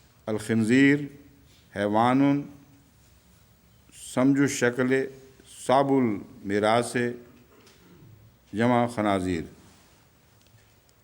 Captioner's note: Arabic